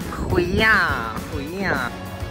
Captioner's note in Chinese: 台語